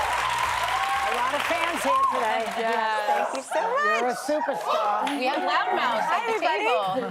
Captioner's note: cheers and applause